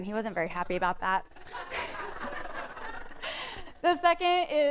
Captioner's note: laughter